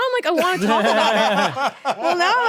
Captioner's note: laugh